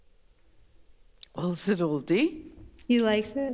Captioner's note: In Mi’kmaq